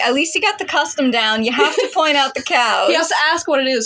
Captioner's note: laugh